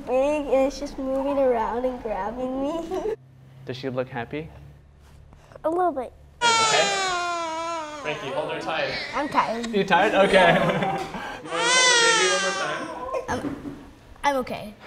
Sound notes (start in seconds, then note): 6.4 baby crying; 10.0 laughing